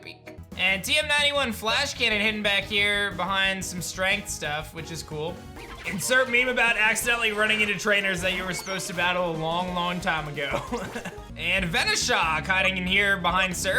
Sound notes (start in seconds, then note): 10.5 giggles